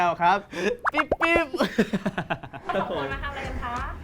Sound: laughs

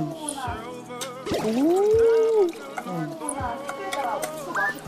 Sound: pouring

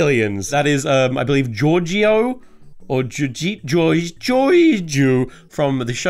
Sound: stammers

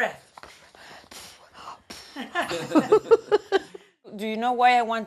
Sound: laughing

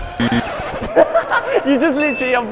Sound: laughs

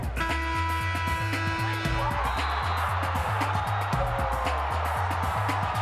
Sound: horn sounding; crowd cheering

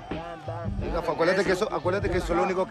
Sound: none

